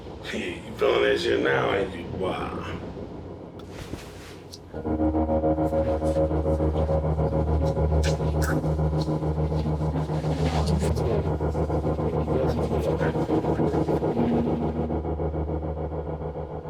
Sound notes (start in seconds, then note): 5.4 whispering